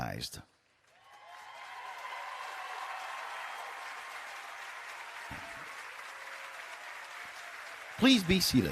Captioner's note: cheering and Applause